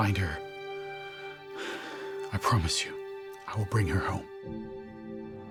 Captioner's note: exhales